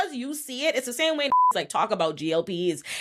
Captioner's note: beep